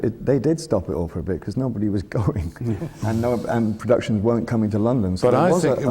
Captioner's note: laughs